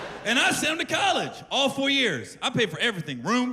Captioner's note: laughter